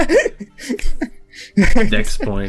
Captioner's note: laughs